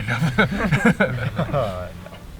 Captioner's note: all laugh